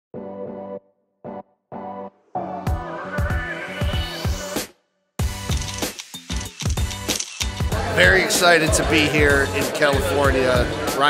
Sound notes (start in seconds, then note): 0.1 upbeat music; 5.4 cameras snapping